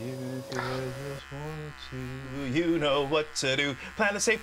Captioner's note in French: en chantant; bruit de rasoir